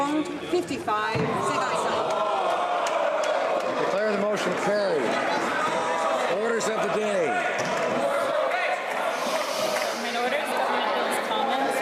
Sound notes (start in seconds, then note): 2.8 speaking French; 7.7 some Applause